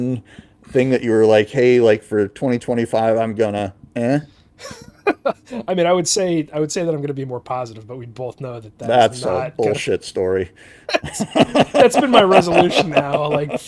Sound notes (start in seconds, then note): 4.6 laughing; 10.9 laughing